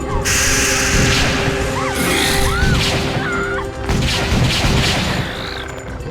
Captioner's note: Alison screaming; creature growling; gun firing